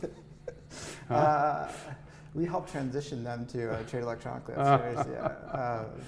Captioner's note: laughs